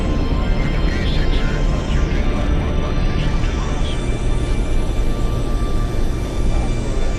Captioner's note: spaceship whirring